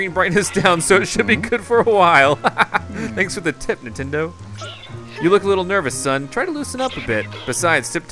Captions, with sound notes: (laughter) Thanks for the tip, Nintendo!